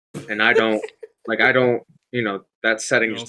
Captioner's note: laughs